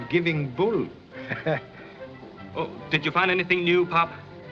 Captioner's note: chuckles